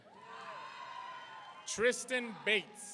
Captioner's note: audience cheering